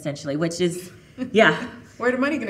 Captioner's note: chuckling